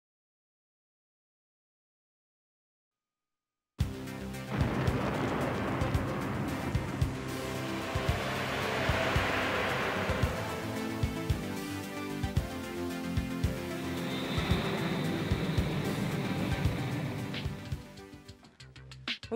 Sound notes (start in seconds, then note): 4.4 explosion booming; 6.0 upbeat synthesizer music; 8.6 motor roaring; 13.4 plane engine whining